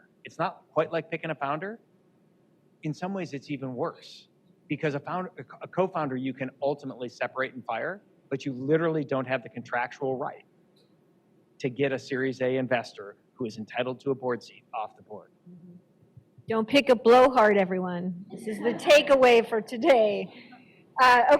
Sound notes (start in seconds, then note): 18.4 laughter